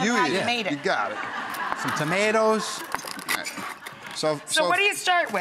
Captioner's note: laughing